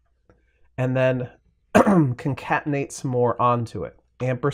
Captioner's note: clears throat